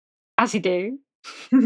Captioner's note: laughs